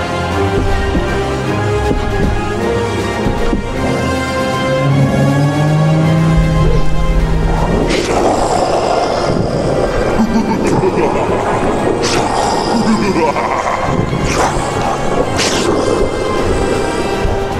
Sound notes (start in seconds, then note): 3.6 bin hand roars; 3.6 margore roars; 10.3 bin hand laughs menacingly; 10.3 margore roars again